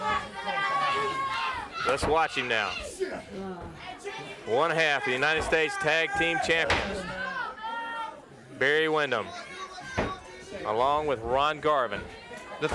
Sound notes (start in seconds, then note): 3.2 wrestlers grunting